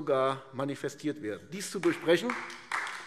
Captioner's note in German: Beifall AfD